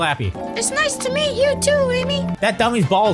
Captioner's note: Slappy, high-pitched voice